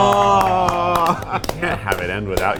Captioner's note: all clapping